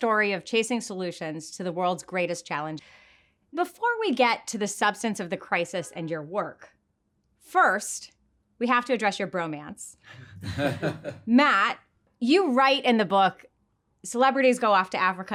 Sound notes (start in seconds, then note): 10.2 both laugh